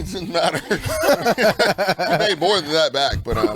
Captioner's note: laughs